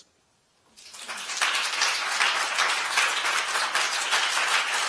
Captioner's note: applause